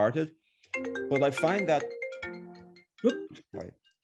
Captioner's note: phone ringing